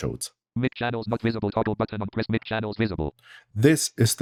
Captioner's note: automated voice